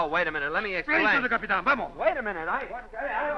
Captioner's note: speaking spanish